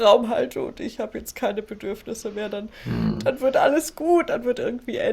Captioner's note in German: räuspern